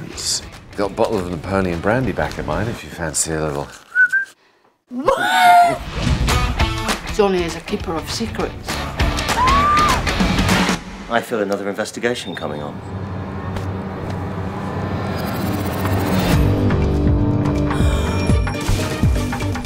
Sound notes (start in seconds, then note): 3.8 whistling; 6.2 upbeat pop music; 9.3 screaming; 13.4 suspenseful music; 17.4 gasping